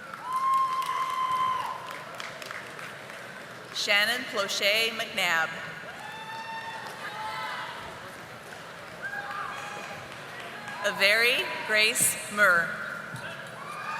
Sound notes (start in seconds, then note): 1.8 audience applauding